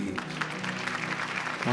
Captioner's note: applause